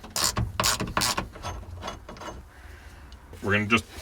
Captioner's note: ratcheting